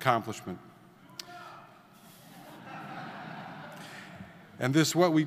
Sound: audience member yelling; audience laughing

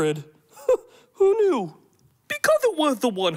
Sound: chuckles

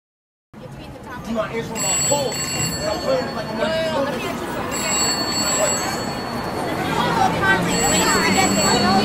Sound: phone ringing

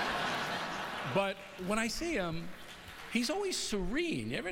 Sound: laughter

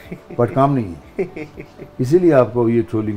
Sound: laughs

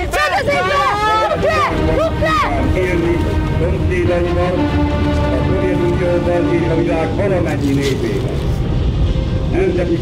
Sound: the radio continues

